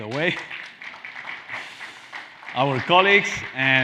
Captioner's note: Aplaudiendo audiencia